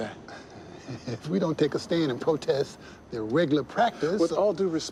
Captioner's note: chuckles